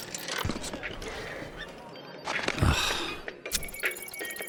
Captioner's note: phone ringing in background